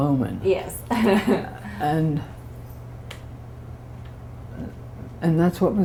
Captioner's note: laughter